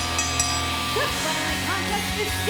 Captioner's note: bell ringing